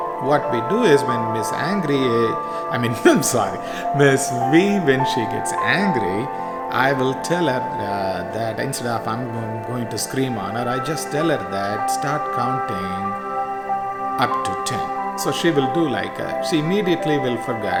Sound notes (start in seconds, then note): 2.7 laughs